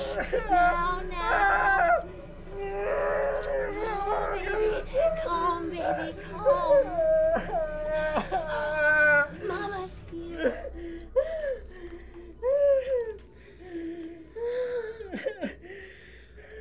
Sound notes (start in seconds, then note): 2.5 Carlos grunting; 7.2 Carlos sobbing; 11.1 Carlos whimpering